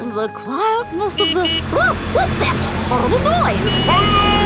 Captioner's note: honking